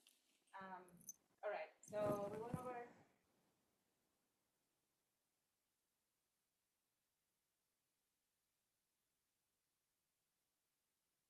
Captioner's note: audio missing